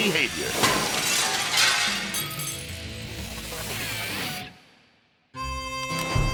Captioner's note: glass shattering; energizing music; melodic music